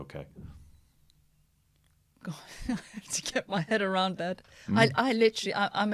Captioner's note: laughter